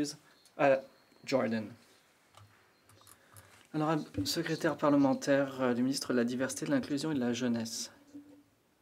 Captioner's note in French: voix de l'interprète